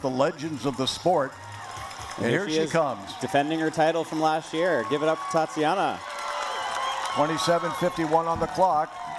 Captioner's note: cheering